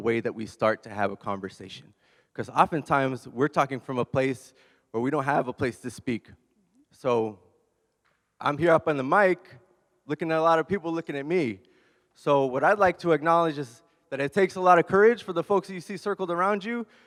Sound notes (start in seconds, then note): none